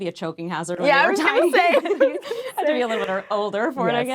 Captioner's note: laughing